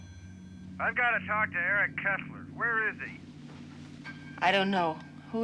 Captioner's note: on phone